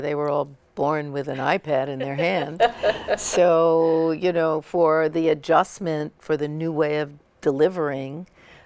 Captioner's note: laughter